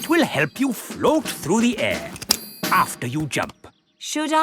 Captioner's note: clicking